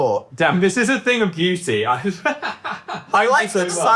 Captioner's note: laughs